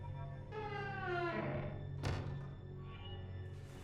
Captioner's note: door creaking